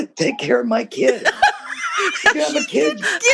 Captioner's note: laughter